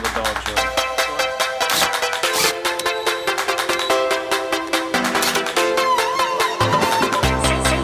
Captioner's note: drill noise